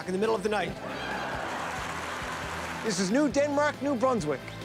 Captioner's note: laughter